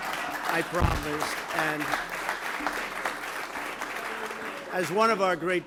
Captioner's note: applause